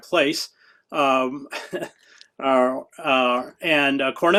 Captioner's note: chuckles